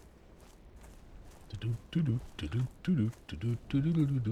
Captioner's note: humming